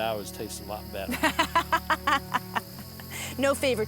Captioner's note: laughs